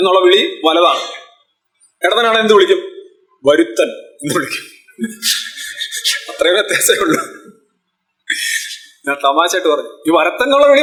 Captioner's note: laughs